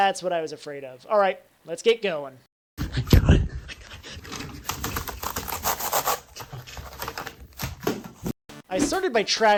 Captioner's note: frantic sounds of turning on the computer